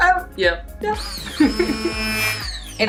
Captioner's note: machine whirls